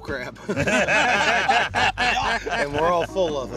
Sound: laughter

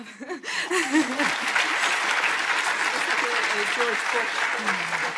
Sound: audience applauding

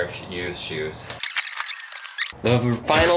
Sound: video squelches

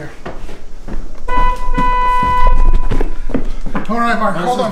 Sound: car horn honks

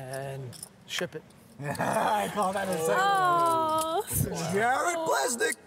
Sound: laughs

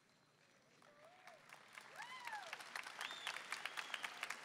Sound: audience applauding

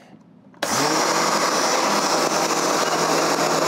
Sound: blender whirs

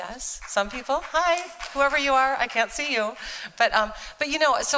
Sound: applause

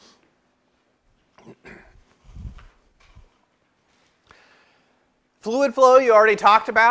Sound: cough

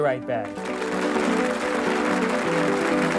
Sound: applause

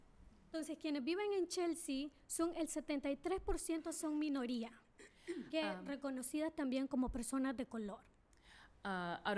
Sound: speaking spanish

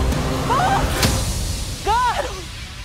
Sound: screams

